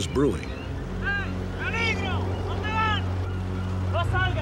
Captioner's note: speaking spanish